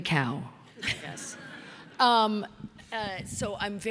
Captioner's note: audience laughing